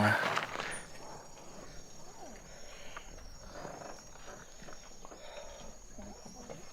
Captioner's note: quiet crickets chirping